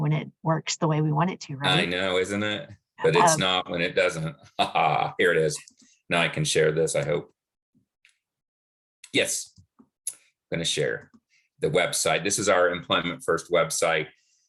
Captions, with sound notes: when it works the way we want it to, right? - I know, isn't it? But it's not when it doesn't. (laughs) Here it is. Now I can share this, I hope. Yes, gonna share the website. This is our Employment First website,